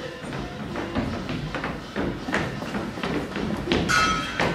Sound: hoofbeats thumping

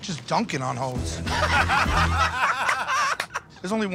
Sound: laughter

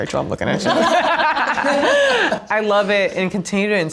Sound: group laughs

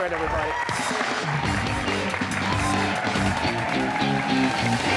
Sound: cheers and applause

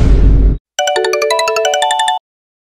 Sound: phone ringing

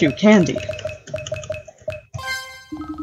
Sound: dinking

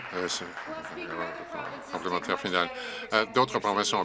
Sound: some Applause

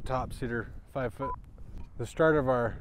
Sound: beep

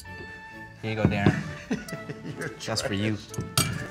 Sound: laughs

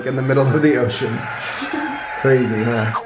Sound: laughing

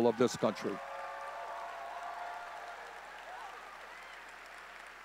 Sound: audience cheering

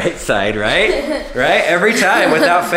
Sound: laughing

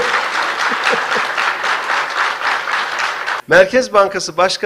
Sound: applause

